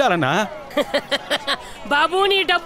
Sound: laughs

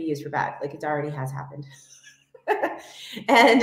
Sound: chuckles

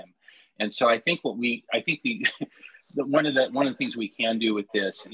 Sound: laughter

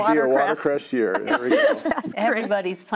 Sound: everyone laughs

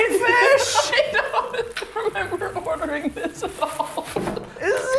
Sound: still giggling

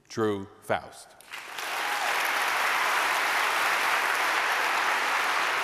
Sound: applause

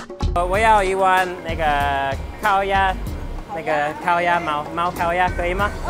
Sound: upbeat music; speaking in a foreign language

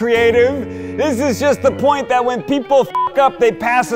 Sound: beep

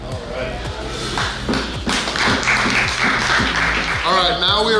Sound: clapping

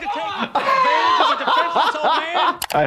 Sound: laughing

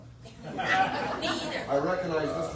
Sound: audience laughs

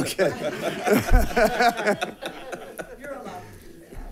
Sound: board members laughing

